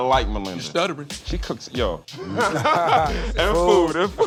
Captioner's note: laughter